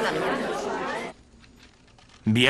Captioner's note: crowd disharmony